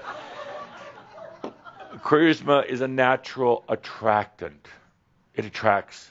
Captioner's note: some chuckles